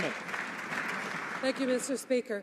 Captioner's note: some Applause